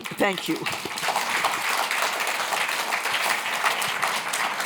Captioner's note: applause